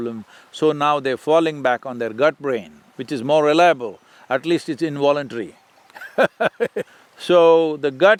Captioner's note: laughs